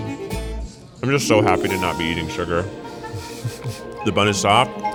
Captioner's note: chuckles